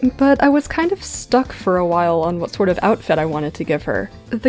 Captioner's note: none